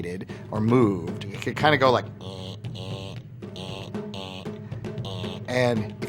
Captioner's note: imitating robot